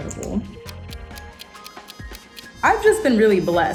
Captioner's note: clock ticking